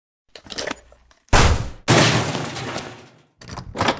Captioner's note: crashing